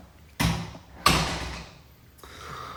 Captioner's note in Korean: 문 닫히는 소리